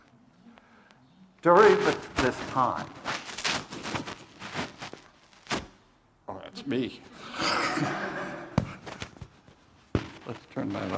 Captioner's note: crackling sound